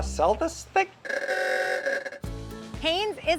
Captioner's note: horn honking